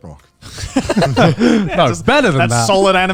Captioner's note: everyone laughs